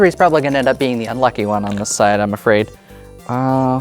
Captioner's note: dice rattling; dice rolling